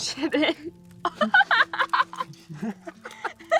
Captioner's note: Summer laughs; Dev laughs